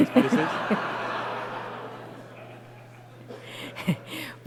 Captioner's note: laughter